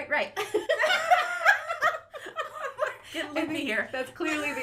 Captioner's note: laughter, unintelligible